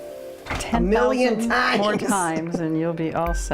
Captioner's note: laughs